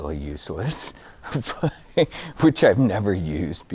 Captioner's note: giggling